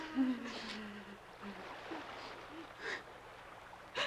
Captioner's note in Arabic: نساء تبكي